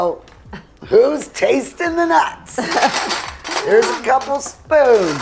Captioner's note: laughs